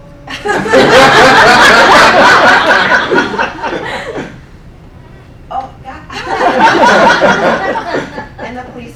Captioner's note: laughing